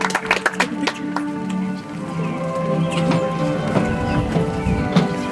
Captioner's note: audience applauds; soft music